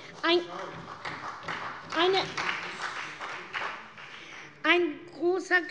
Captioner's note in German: Beifall bei Abgeordneten der SPD